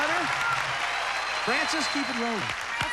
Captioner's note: cheers and applause